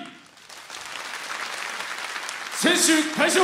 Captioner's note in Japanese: 拍手